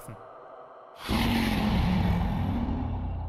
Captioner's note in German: Drachen Sprache